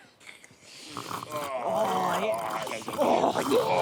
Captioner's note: scoffing and chomping